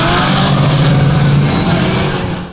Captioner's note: loud engine revving sounds